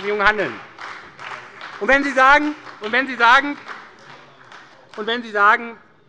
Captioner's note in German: Beifall bei der SPD